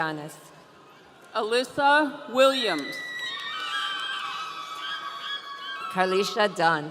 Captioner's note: audience cheering